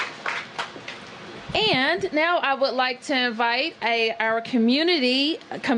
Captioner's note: applause